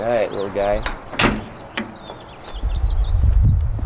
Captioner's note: door slams